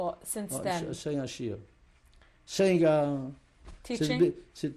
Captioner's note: yiddish speech